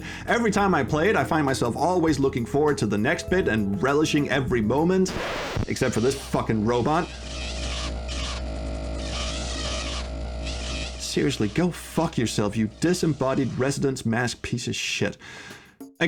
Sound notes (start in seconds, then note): 7.4 grs drone grinding harder